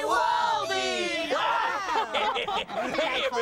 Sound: laughter

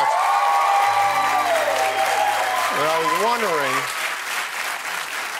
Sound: cheers and applause

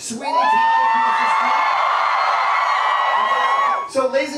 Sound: cheering

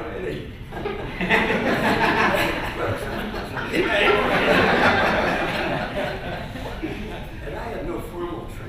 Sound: laughter

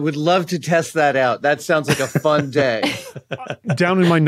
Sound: group chuckling

